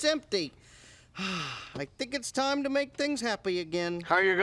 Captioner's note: sighs